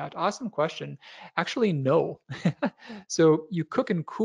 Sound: laughs

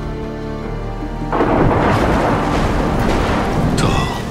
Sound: thunders

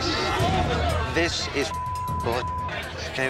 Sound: beep

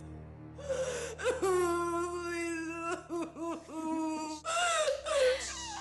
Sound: sobbing

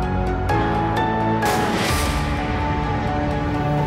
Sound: gunshot

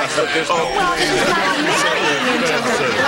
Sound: doorbell rings

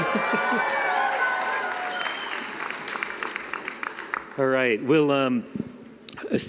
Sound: cheering and applause

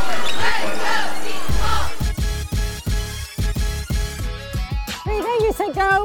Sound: cheering

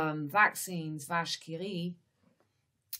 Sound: speaks in French

